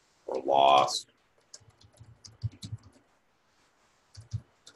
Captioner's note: typing Sounds